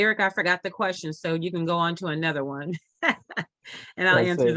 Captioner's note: laughs